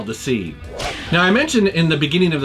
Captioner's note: whip cracking